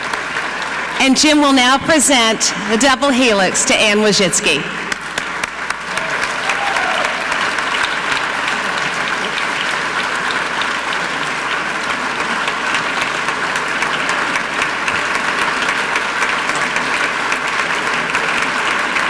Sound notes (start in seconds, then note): 4.4 audience clapping; 4.4 clapping